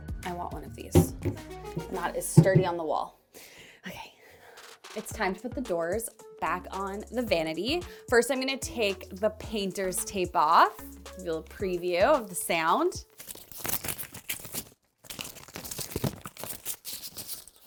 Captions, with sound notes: I want one of these. Not as sturdy on the wall. Okay. It's time to put the doors back on the vanity. First, I'm gonna take the painter's tape off. Give you a little preview of the sound. (tape crinkles)